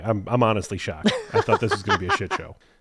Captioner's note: laughs